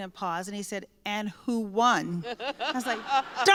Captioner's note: laughter